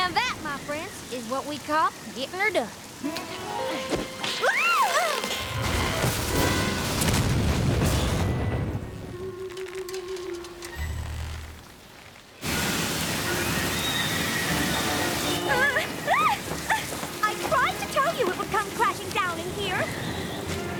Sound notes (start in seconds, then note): 3.7 grunting; 3.7 snap!; 5.0 crash!; 5.1 gasps; 15.5 rarity whimpering